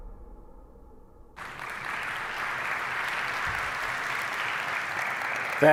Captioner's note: applause